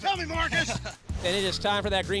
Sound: laughter

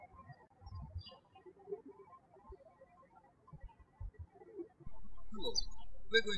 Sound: birds chirping

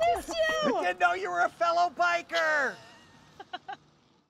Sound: biker laughing

